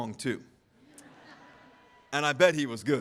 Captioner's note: audience laughing